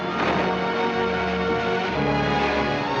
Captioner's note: logs sloshing